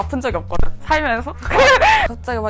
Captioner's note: laughing